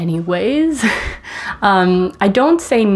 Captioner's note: laughs